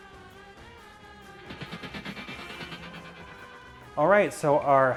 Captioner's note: rattles